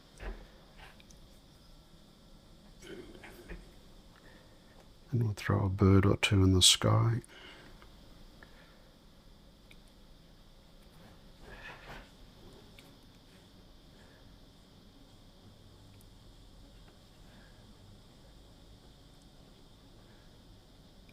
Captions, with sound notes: [silence] And we'll throw a bird or two in the sky. [silence]